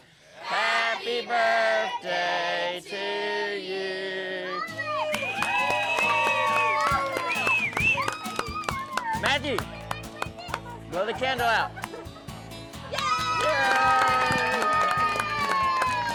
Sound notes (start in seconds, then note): 4.8 cheering, clapping; 12.9 cheering, applause